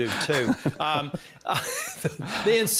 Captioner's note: laughing